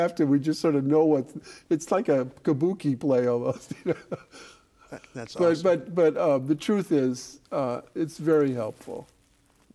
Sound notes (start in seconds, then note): 3.6 laughing